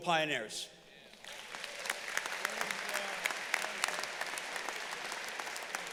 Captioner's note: audience applauding